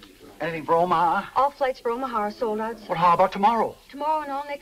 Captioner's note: none